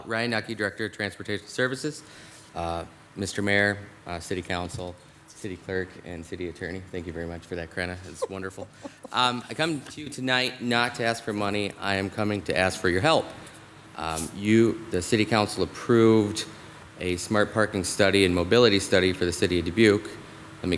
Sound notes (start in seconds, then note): 7.9 laughing